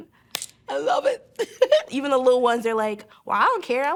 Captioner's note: laughs